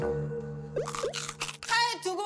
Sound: munch, munch

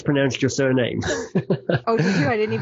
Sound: laughing

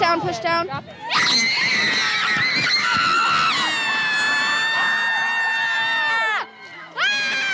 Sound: yells loudly

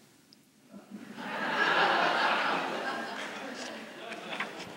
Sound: laughter

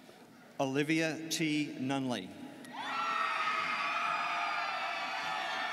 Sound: students cheering

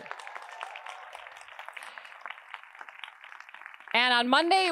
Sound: attendees applauding

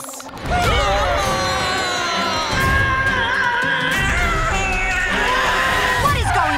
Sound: screaming

